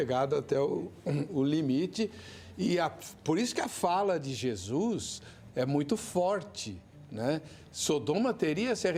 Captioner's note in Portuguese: limpando a garganta